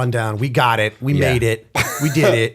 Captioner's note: chuckle